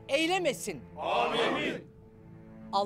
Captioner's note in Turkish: Hep bir ağızdan